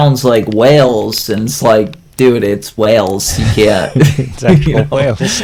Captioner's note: laughs